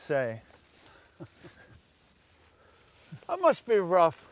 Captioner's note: chuckles